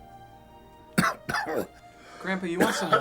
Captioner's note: coughing